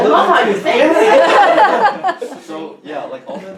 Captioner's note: everyone chuckles